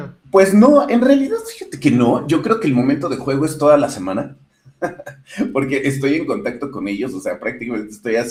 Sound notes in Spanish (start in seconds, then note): 4.8 risas